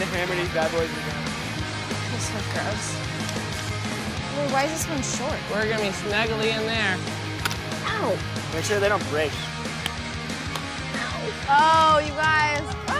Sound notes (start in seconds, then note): 8.0 rock pounding; 9.9 rock pounding